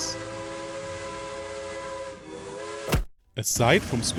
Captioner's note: locomotive honking